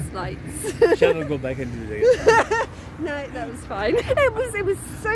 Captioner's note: lauging